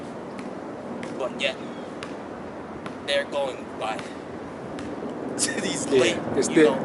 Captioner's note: laughs